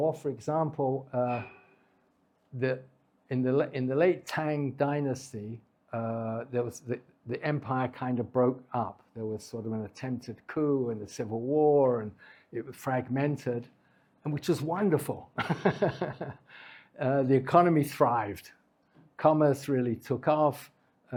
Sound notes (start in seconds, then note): 15.4 laughs